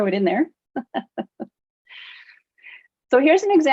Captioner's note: laughs